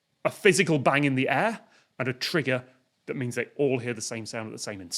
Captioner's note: none